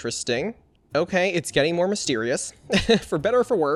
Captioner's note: laughs